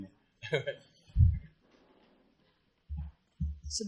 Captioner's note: laughs